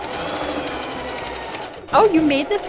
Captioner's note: sewing machine whirring